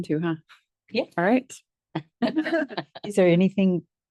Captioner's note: laughs